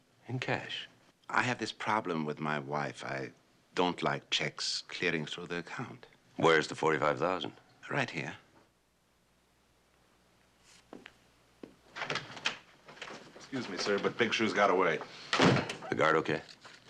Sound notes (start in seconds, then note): none